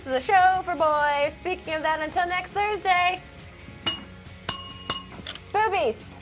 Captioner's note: bell dings